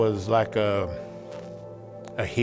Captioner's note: pat